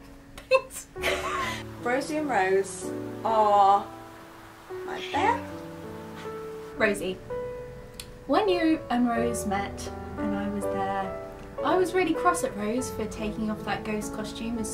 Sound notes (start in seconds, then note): 1.0 laughs; 5.1 cat meows